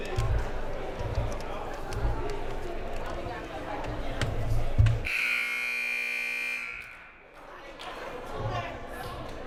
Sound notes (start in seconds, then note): 5.0 buzzer blaring